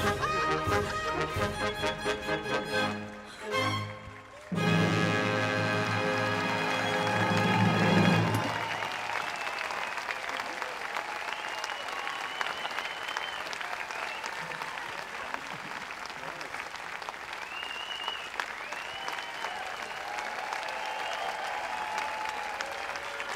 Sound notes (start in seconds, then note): 9.1 audience cheers/applauds; 15.3 audience cheers/applauds